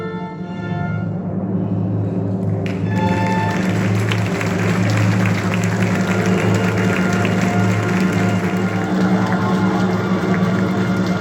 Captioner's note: final chords. Cheers and applause!